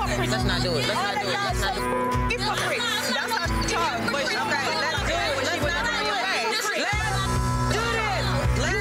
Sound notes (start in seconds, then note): 4.5 shouting; 7.0 beep